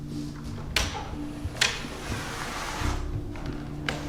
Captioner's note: person knocking; door opens